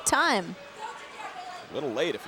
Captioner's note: crowd cheering